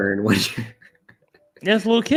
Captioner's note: laughs